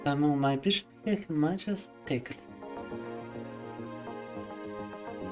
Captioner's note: speaking in foreign language